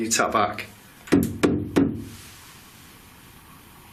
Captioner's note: knocking